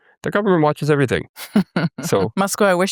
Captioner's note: chuckles